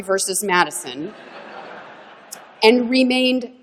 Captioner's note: laughter